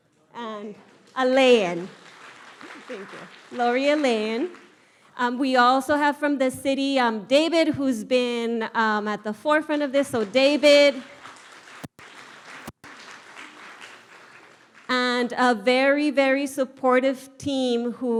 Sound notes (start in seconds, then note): 11.8 audience applauds